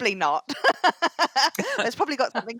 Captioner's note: laughs